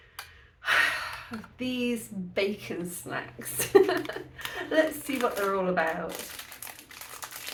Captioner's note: deep sigh